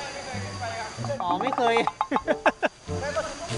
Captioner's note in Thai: หัวเราะ